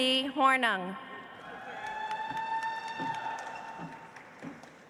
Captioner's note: audience applauds